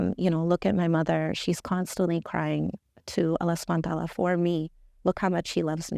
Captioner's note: speaking Arabic